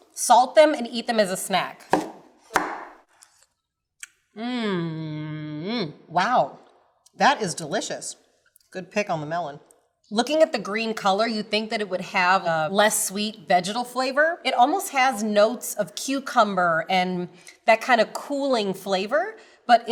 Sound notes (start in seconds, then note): 1.8 knife chops